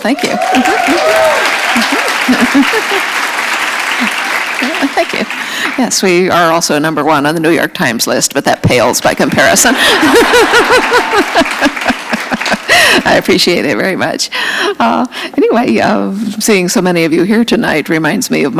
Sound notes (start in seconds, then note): 0.0 applause; 11.2 laughter; 12.2 applause